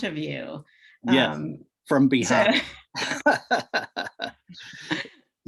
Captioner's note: laughs